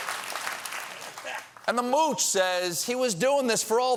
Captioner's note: applause